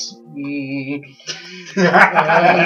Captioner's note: laughter